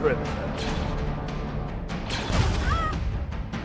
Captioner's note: blaster fires; Veltron cries out